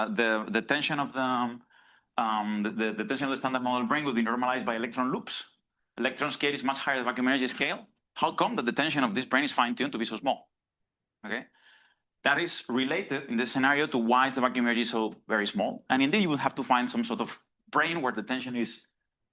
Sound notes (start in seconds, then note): none